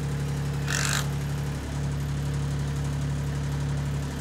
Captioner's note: screw gun spinning